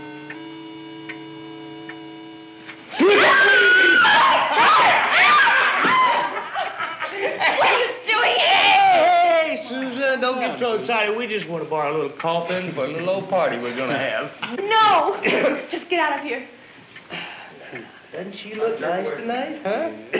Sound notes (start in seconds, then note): 2.9 loud yelling and screaming; 5.4 laughing